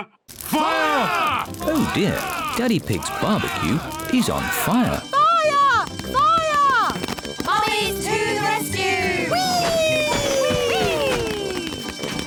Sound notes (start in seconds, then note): 5.0 alarm blares